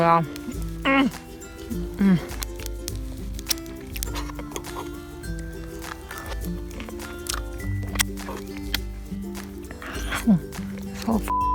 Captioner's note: eating sounds